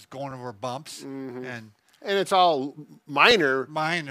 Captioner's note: hums agreeably